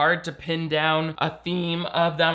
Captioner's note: none